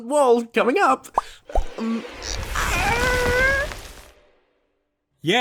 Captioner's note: struggling